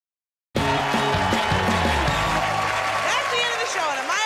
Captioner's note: cheers and applause